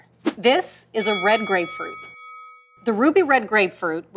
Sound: bell dings

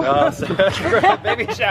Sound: laughing

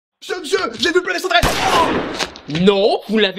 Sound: bang

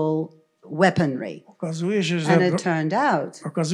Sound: foreign language

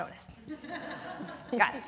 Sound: laughter

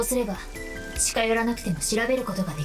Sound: none

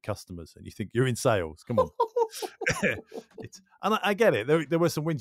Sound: laughs

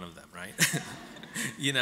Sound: laughter

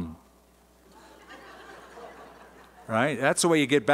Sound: laughter

